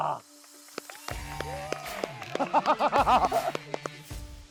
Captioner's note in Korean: 다같이 박수 타임